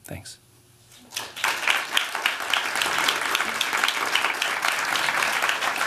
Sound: applause

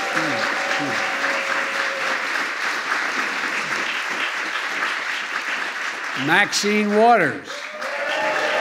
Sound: applause

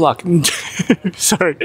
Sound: laughs

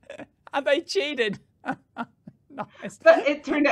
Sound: chuckling

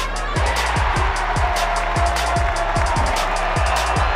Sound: crowd cheering

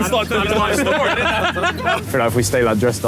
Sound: laughing

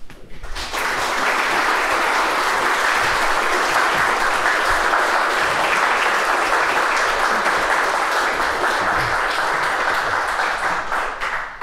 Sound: applause

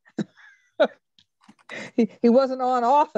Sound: laughs

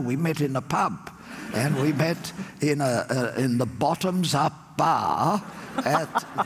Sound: laughter

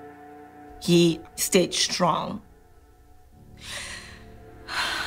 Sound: sighs

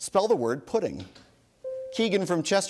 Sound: bell dings

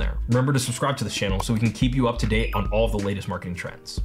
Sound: bell chimes

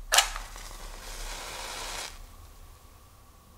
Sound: match striking

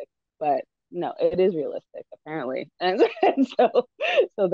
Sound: laughs

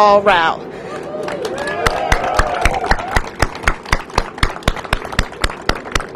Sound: cheers and applause

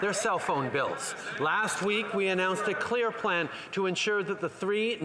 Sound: some Applause

